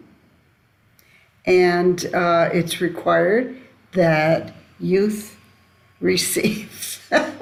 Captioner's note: laughs